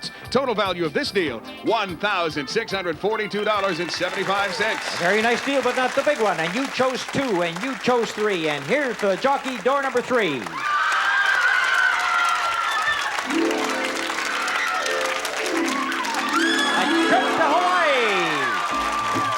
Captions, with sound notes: $1,642.75. -A very nice deal, but not the big one, and you chose two, and you chose three, and here, for the jockey, door number three. (screams) A trip to Hawaii! (audience applause)